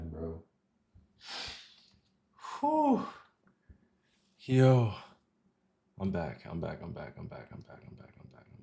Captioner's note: sighs